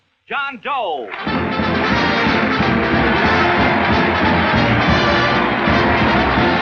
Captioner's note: applauding; orchestral music